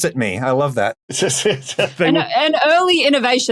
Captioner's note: laughs